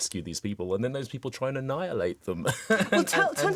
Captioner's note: laughs